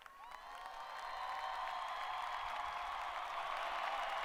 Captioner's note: crowd applauding